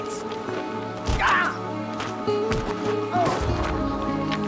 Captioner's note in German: grunzt